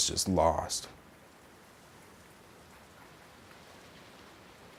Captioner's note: rain trickling